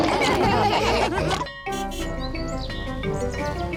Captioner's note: all laughing; bell dinging